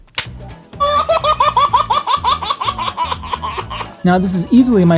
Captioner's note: baby laughing